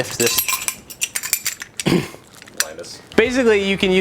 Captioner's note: clanking